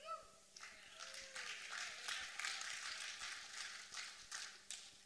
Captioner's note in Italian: applausi